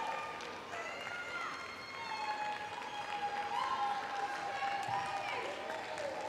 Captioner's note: cheering continues